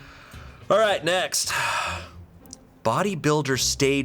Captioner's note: sighs deeply